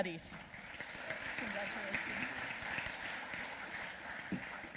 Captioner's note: applause